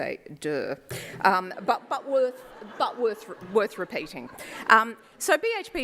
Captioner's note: laughter